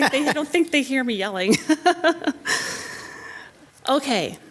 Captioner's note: laughs